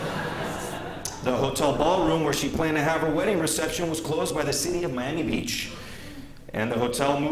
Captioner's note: laughter